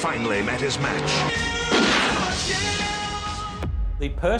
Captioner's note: gun blasts